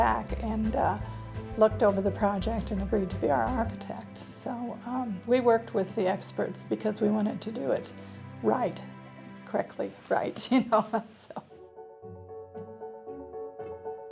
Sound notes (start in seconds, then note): 10.5 laughs; 11.5 piano music